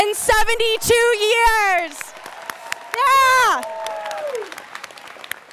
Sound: students cheering

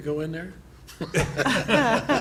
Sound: laughter

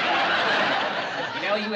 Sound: laughter

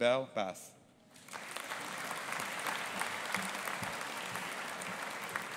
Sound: audience applauding

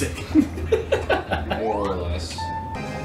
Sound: laughs

